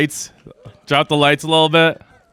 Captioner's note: crowd laughs and cheers